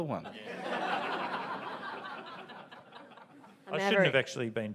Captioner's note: audience laughs